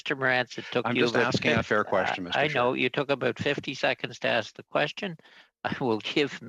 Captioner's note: mixed voices